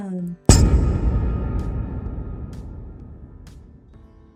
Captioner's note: pipe clanging sound